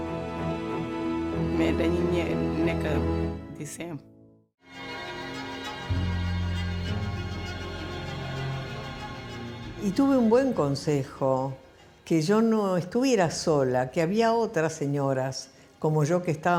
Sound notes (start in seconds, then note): 4.6 dramatic music; 10.1 foreign language